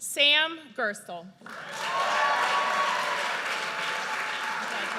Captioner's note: audience cheers